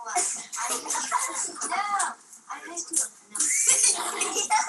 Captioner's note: children chatting